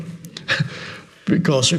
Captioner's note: Eckhart chuckles